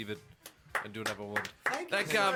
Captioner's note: applause